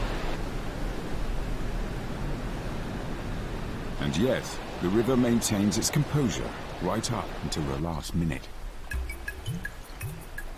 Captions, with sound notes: And yet the river maintains its composure right up until the last minute. (upbeat music) (water running)